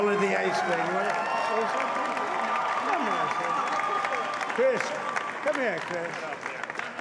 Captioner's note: cheering